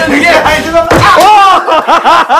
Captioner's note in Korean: 쾅!